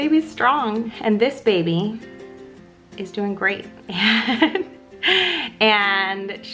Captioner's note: laughs